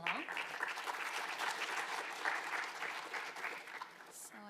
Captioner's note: attendees applauding